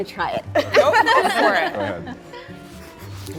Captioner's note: group laughing